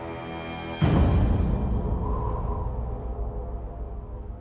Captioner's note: wind blowing